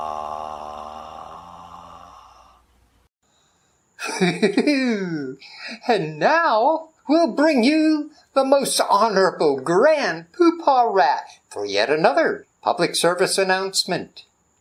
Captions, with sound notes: (giggling) And now we'll bring you the most honorable Grand Pooh Paw Rat for yet another public service announcement.